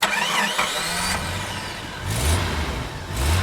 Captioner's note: engine starts